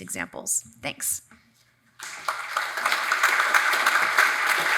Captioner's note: audience applauds